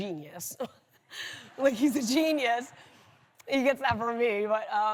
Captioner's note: laughs